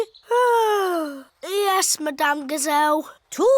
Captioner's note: yawns